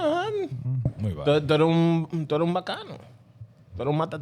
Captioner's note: speaking Foreign Language